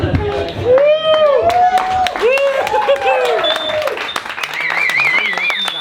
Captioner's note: crowd cheering and applauding